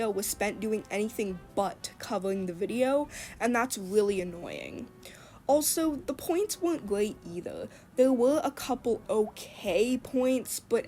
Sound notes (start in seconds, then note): none